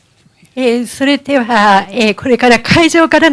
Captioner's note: speaking japanese